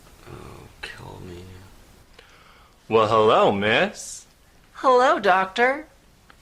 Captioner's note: voicing as puppets